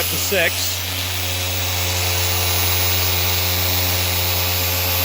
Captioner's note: buffer loudly whirring